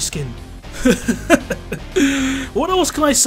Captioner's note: laughing